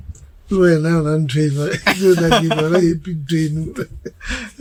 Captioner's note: laughing